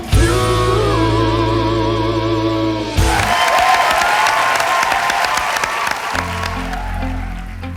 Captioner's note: cheering